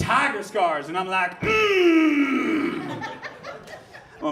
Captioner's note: grunts